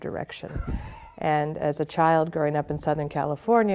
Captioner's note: chuckling